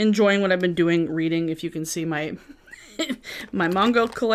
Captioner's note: laughing